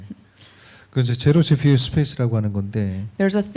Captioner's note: speaking korean